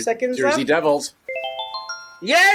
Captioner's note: twinkling sound